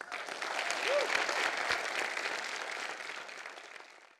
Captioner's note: audience applauding